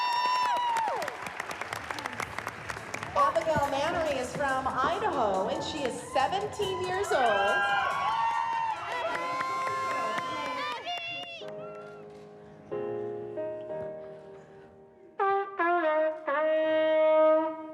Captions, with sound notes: Abigail Manery is from Idaho, and she is 17 years old. (CHEERING, SHOUTING, APPLAUSE) (GENTLE PIANO MUSIC PLAYS) (PLAYS GENTLE TUNE)